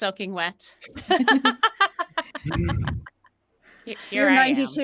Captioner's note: Deborah laughs